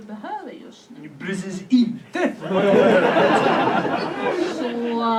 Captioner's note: laughter